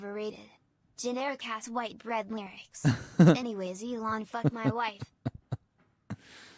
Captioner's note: chuckles